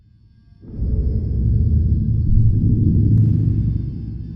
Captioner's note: deep booming sound